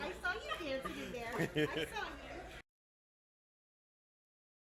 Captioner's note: laughing